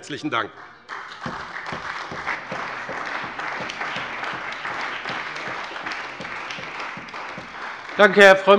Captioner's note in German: Beifall bei BÜNDNIS 90/DIE GRÜNEN und der CDU